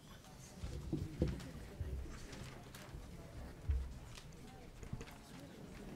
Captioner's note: people chattering indistinctly